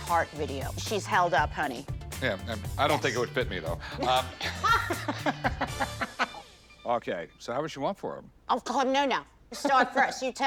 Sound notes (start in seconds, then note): 4.0 laughter